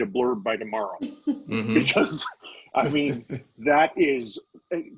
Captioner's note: laughing